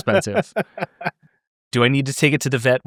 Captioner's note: laughing